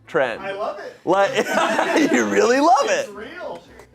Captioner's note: audience laughing